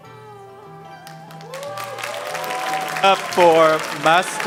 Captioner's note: audience cheering and applauding